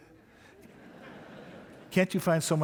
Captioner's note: audience laughing